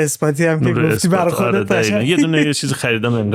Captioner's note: laughs